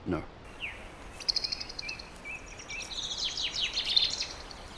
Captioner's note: birds twittering